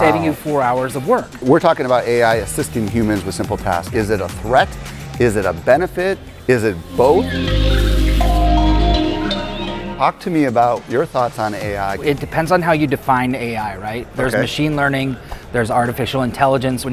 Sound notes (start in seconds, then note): 6.1 upbeat music; 6.6 birds chirping